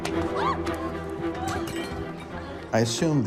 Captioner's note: yelps; glass shatters